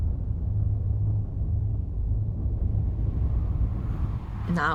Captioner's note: wind howling